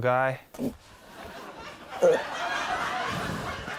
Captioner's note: laughter